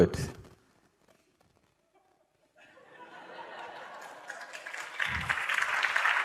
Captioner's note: laughter, Clapping